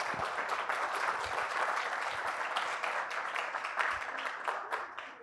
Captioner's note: applause